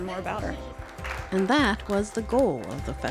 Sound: audience applause

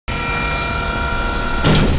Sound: electric whirring

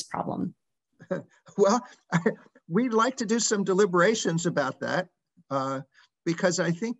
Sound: laugh

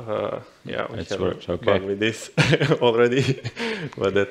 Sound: chuckles

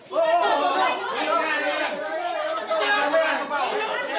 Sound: Roberto's supporters clamoring

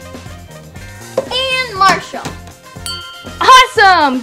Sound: bell rings

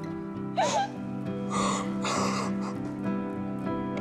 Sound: sobbing

